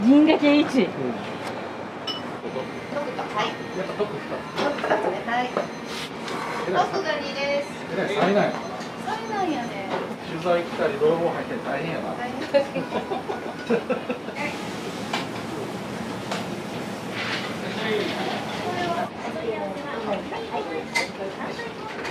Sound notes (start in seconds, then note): 12.4 laughter